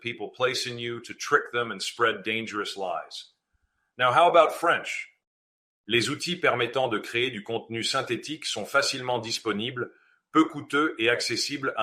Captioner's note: speaking Dutch language